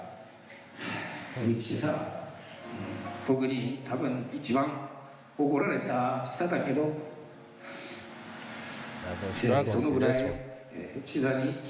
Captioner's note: speaking foreign language